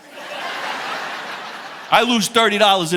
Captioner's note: audience laughing